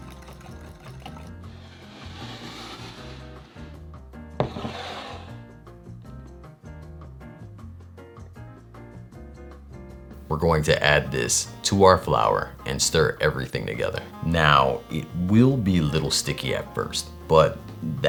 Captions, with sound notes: [cup sliding] [bowl sliding] We're going to add this to our flour and stir everything together. Now, it will be little sticky at first but that